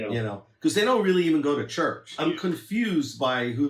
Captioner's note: laughs